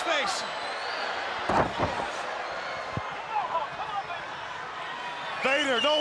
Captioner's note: crowd chatter